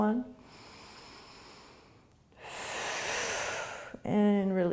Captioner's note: deep breathing